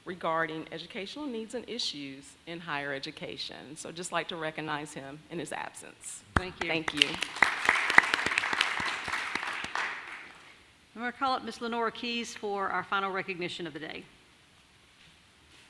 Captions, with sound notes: regarding educational needs and issues in higher education. So just like to recognize him in his absence. - Thank you. - Thank you. (clapping) - I'm going to call up Ms. Lenora Keas for our final recognition of the day.